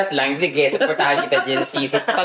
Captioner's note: scoffs